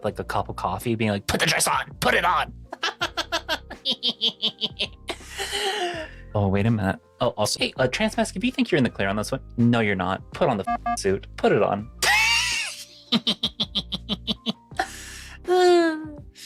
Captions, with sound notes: like a cup of coffee being like, put the dress on, put it on. (laughing) Oh, wait a minute. Oh, also, hey, trans mascs, if you think you're in the clear on this one, no, you're not. Put on the suit, put it on. (laughing)